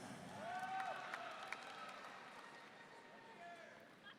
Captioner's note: audience cheering